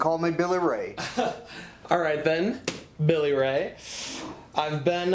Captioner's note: chuckles